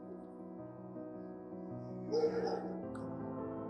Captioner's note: dog barks